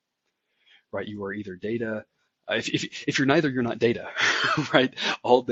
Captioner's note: laugh